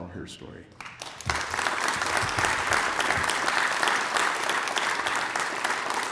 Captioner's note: applause